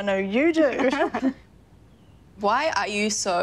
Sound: all giggling

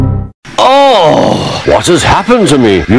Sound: starkey gr0ans in agony

